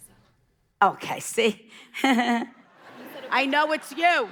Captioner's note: laughing; audience laughing